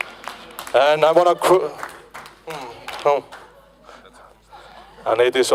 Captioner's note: applause